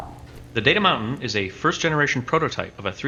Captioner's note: voiceover